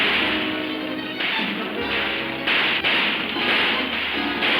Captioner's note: guns firing